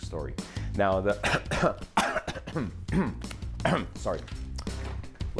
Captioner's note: coughing